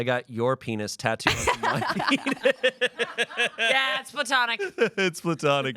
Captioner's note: laughs